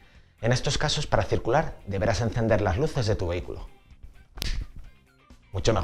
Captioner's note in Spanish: Chasquea los dedos